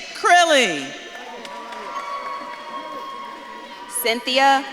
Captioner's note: audience claps and cheers